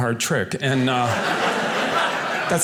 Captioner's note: audience laughing